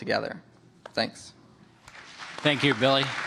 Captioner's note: applause